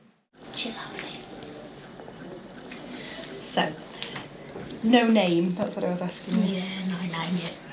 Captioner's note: general chatter